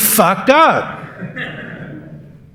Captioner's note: laughter